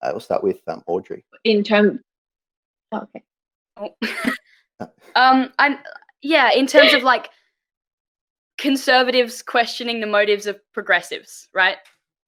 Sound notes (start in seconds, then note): 3.9 laughs